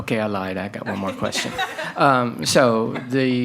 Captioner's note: attendees chuckle